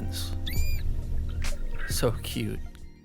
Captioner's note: calf chirping